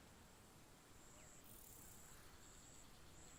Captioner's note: birds chirping